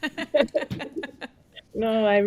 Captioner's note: laughing